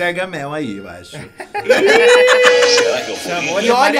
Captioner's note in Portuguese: risos